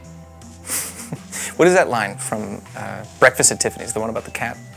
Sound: chuckles

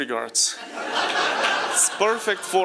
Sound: laughing

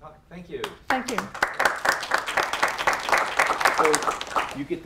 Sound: applause

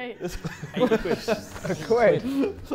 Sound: Sidemen laughing

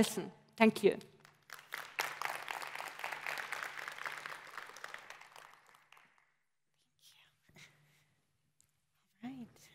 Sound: applause

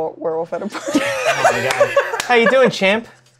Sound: laughter

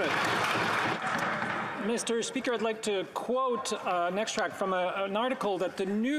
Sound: applause

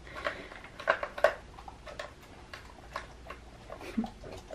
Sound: chewing sounds

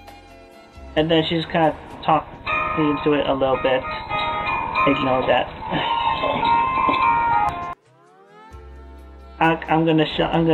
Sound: phone ringing

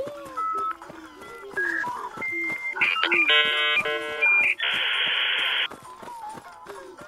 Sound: beeping and whirring

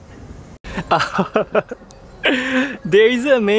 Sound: laughs

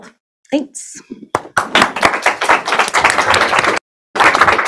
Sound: applause

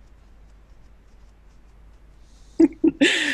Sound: fingers tapping softly; laughs

